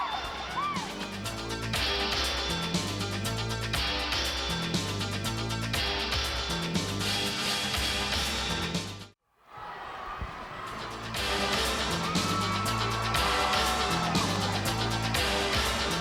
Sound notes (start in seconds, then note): 0.0 crowd cheering; 1.5 crowd chatter; 2.7 crowd cheering